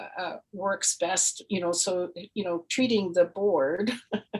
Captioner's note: laughs